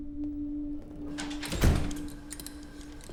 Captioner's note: door closes